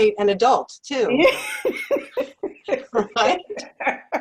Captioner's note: laugh